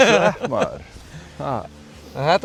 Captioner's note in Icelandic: Laughs